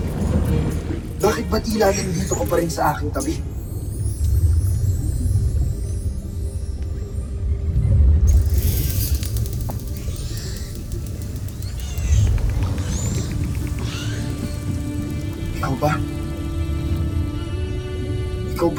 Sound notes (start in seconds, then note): 0.0 squeaks & squawks; 3.8 music fades; 3.8 water gurgling; 7.8 echoing screech; 8.3 squeaks & squawks; 16.8 ethereal music playing